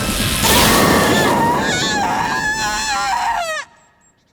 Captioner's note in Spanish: Zora grita